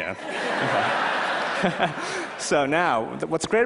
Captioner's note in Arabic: ضحك